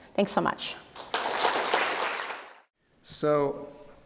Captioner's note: audience applauding